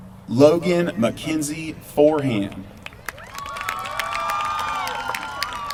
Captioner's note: applause